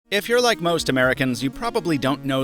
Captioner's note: voiceover